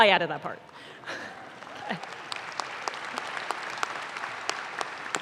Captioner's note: audience claps